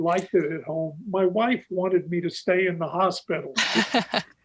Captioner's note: laughs